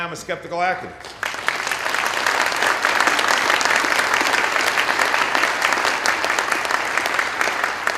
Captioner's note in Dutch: Applaus